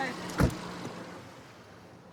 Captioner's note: car door closes